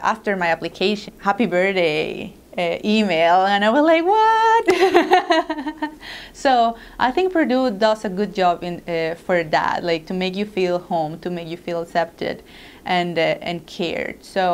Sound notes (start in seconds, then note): 4.6 laugh